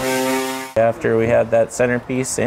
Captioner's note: cutting sounds